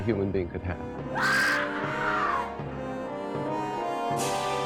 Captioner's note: woman shrieking